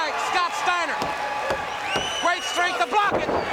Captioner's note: crowd cheering